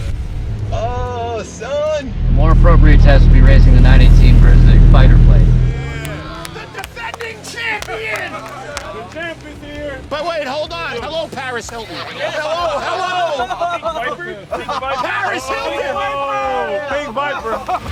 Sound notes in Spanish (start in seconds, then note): 6.4 aplausos